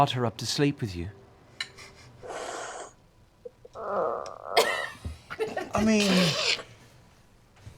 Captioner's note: laughter